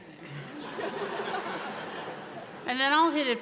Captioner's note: audience laughing